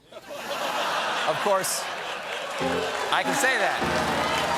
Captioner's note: laughter; piano riff; applause